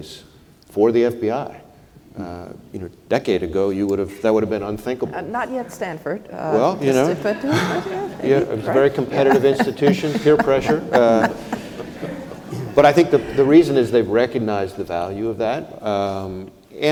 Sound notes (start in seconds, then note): 11.2 laugh